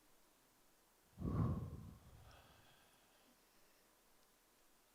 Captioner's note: Michael exhales